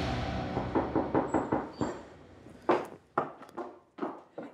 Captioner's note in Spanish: toques en la puerta